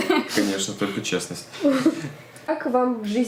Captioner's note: laughter